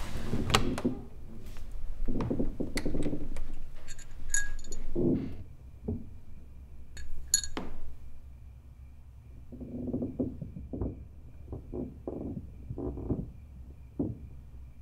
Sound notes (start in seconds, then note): 3.6 jingling; 9.4 creaking